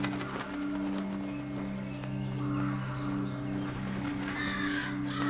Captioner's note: birds cawing